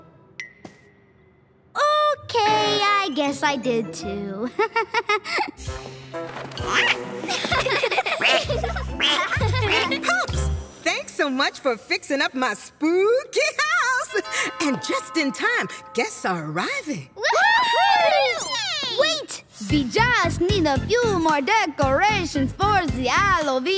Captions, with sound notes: Can you believe it? Okay, I guess I did too. [laughing] [quacks] [laughing and quacking] Pups, thanks so much for fixing up my spooky house. And just in time, guests are arriving. [cheering] Wait, we just need a few more decorations for